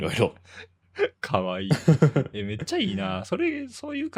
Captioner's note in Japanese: 笑い